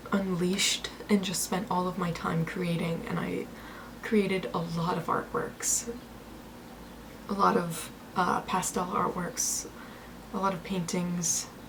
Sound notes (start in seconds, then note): none